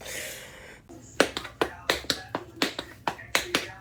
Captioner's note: tap dancing